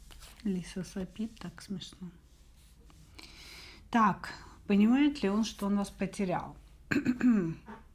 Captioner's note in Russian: откашливается